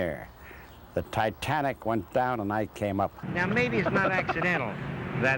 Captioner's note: laughing